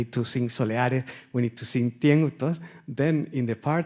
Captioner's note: speaks Spanish